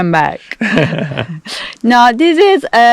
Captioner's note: laugh